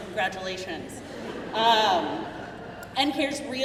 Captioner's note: crowd laughing